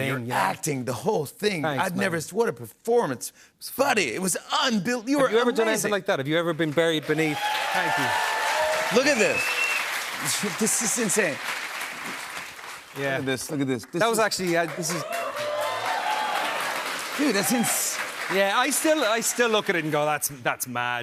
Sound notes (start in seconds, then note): 6.8 cheers and applause